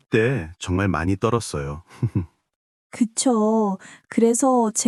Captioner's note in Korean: 웃음